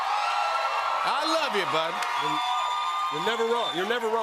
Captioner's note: cheers and applause